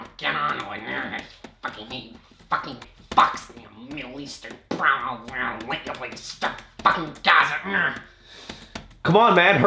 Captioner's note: muttering insults